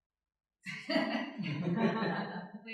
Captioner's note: laughter